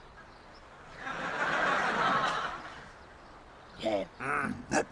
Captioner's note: audience laughing